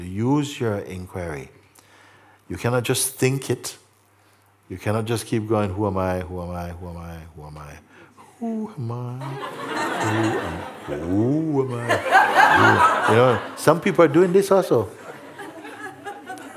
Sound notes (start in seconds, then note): 8.4 Mooji uses funny voices; 11.6 laughter